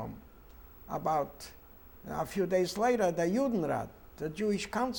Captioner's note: speaking German